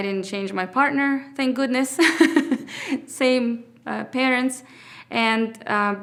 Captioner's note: laughs